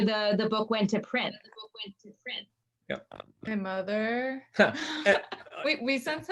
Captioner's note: laughs